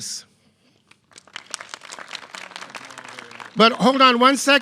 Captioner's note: clapping